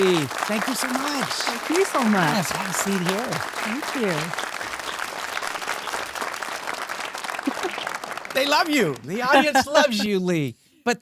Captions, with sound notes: Lee. Thank you so much. Thank you so much. - Yes. Have a seat here. - Thank you. (audience applauding) - They love you. The audience loves you, Lee,